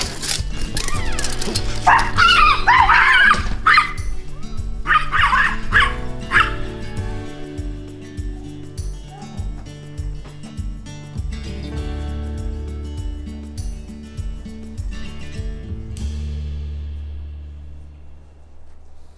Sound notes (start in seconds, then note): 1.8 both dogs barking at squirrel